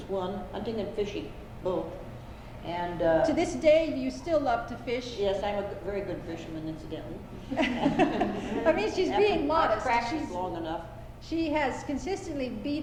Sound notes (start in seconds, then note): 7.4 laughter